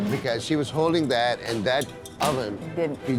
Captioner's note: metal clink